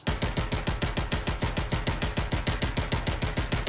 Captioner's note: gunshots